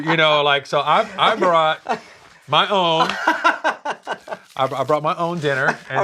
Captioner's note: laughs